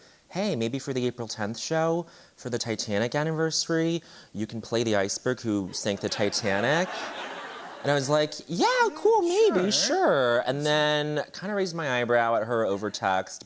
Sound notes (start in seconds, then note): 5.7 laughter